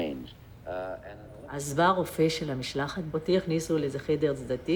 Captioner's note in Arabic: الصوت المنطوق باللغة العبرية